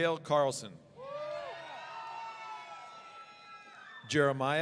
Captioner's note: audience cheering